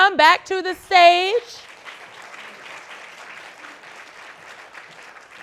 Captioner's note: audience clapping